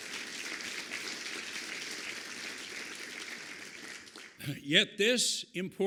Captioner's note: applause